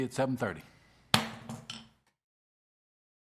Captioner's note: gavel